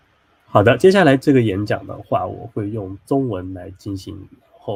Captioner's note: speaking Chinese